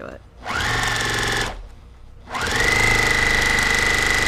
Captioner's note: machine whirring